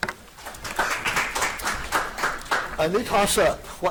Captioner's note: audience applauding